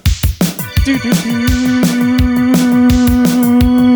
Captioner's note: humming